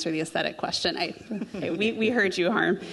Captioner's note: group laughing